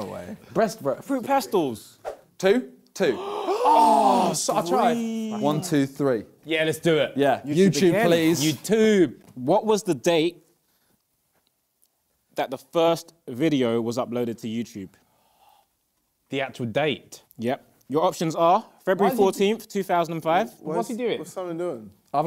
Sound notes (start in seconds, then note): 3.0 both exclaiming